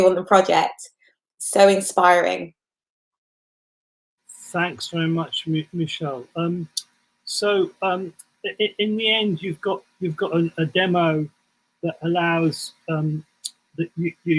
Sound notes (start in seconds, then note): 4.5 laughs